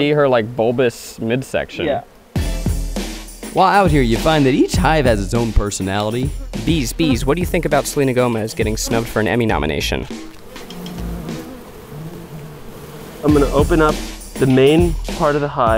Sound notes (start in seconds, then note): 2.5 upbeat music; 11.2 bees buzzing